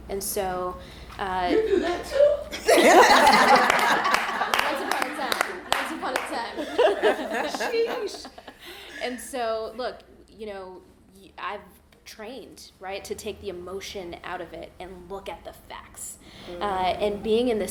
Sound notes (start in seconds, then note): 3.1 all laughing; 3.2 clapping